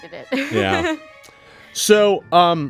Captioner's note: laughs